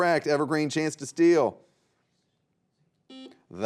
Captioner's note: buzzer beeps